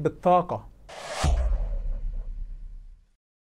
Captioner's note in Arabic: مُؤَثِّرَات صَوْتِيَّة